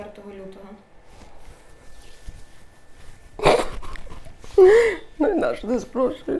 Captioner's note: cries